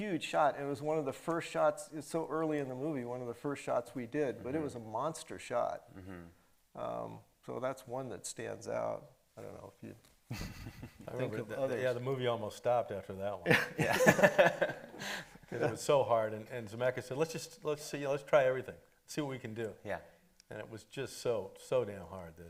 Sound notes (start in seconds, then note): 10.3 chuckles; 13.4 laughing